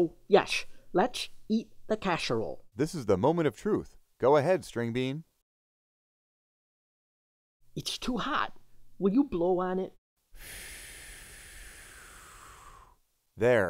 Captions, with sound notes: So yes, let's eat the casserole. - This is the moment of truth. Go ahead, Stringbean. - It's too hot, will you blow on it? (blowing)